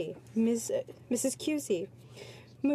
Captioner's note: speaking French